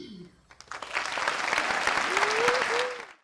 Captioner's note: applause